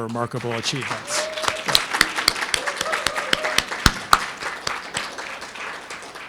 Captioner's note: and audience applauding